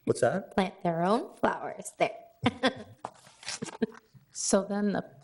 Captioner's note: laughs